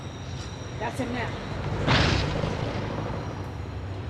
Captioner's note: tire blows